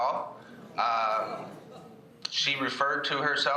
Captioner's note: crowd gasps